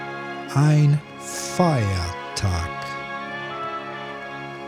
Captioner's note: german